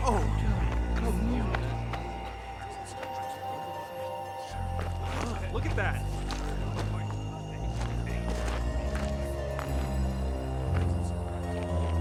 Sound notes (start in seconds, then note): 0.3 eerie music continues; 3.1 soldiers murmuring; 8.5 soldiers murmuring